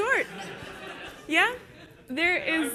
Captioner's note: audience laughs